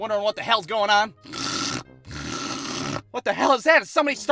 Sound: devil-possessed snoring

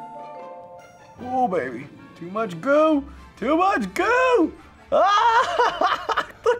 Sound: laughs

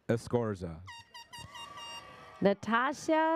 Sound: airhorn sounds

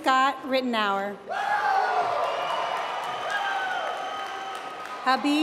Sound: applause

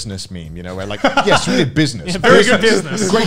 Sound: laughs

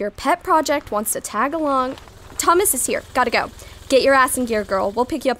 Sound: car outside drives up

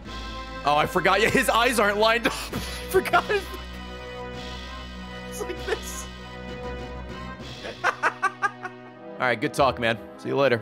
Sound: laughs

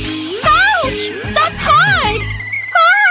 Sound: screaming

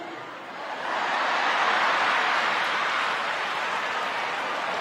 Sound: audience laughing

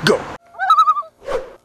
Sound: loon call

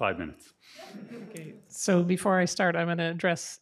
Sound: audience laughing

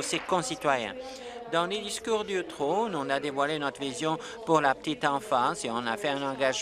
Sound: applause

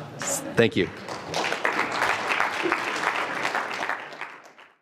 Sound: applause

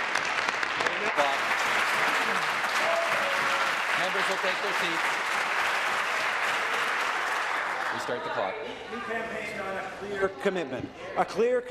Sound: applause

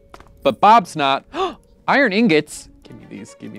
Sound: gasps

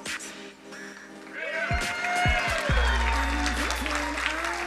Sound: crowd cheering and applauding

